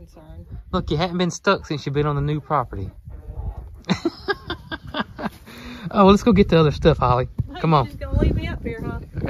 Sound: laughter

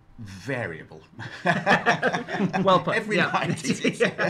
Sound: all laugh

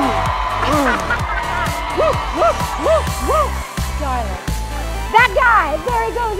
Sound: laughing

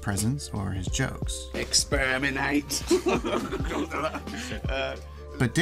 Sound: laughs

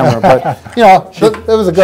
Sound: laughing

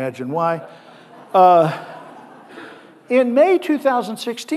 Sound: audience laughing

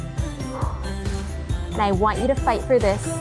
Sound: exhales

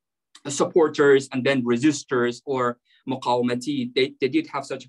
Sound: speaking arabic

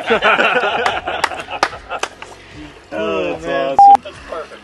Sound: laughing

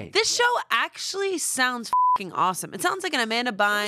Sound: beep

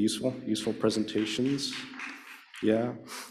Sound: applause

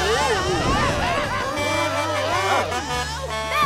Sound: screaming; Blaze honking

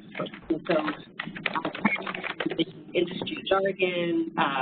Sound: loud clacking

